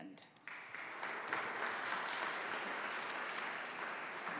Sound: audience applauding

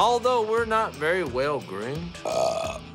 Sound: burps

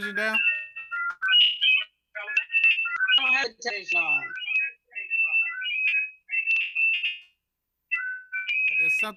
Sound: feedback

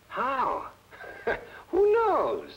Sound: Barney laughing

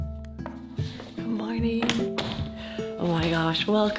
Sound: door shutting

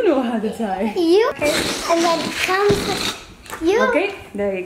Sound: balloon blows air loudly

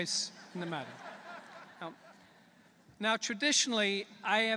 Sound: laughter

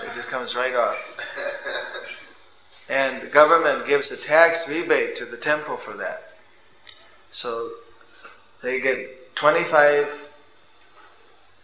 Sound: laughter

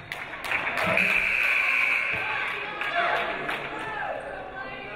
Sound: referee blows whistle; audience applauding; game buzzer buzzes

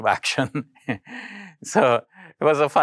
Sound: laughs

